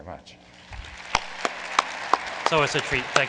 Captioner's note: applause